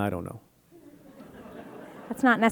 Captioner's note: audience laughing